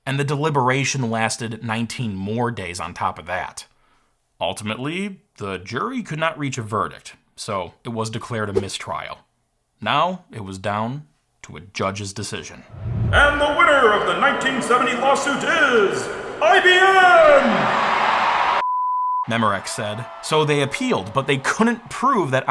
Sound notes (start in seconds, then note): 17.6 audience cheering; 18.6 beep